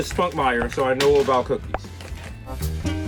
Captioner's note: pops; lively jazz music